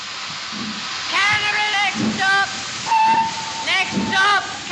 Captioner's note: whistle Blows